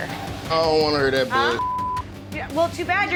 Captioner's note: beep